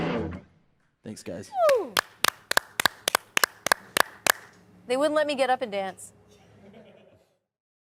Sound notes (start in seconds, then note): 1.6 people clapping